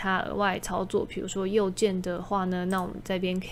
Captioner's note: mouse Right Click